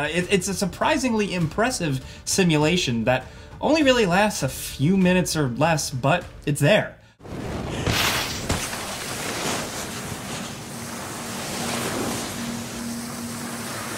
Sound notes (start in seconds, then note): 7.3 skis sliding